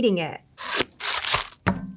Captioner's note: packaging rasping; plastic rustling; patty thudding